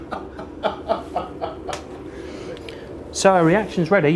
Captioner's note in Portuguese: risos